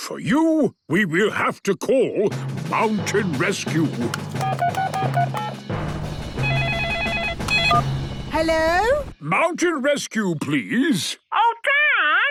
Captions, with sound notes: - Hmm.... For you, we will have to call Mountain Rescue! (phone beeping) (phone ringing) - Hello? - Mountain Rescue, please.